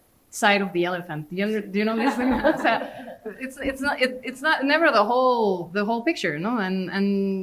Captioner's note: laughter